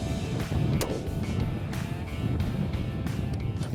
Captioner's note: gunshot